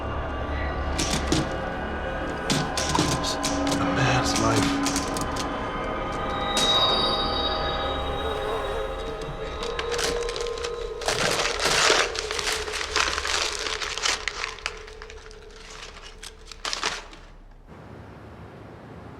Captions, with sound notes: (typewriter resumes clacking) It was... The man's life... (paper crumpling)